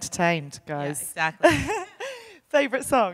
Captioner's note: chuckles